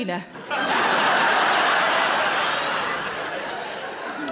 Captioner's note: audience laughing